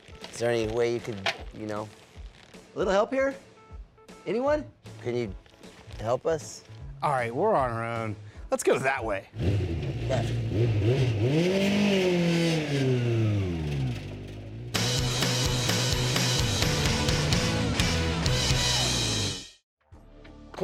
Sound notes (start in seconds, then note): 9.3 revving engine; 14.7 rock music